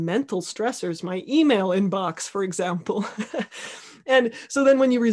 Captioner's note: laughing